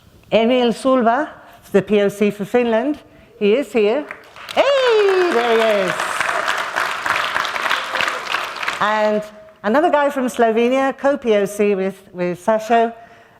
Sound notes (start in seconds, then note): 4.0 applause